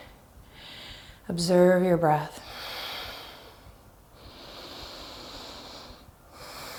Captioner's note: deep breaths